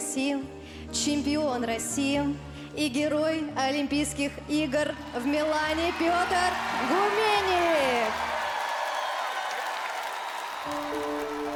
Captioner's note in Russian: ликование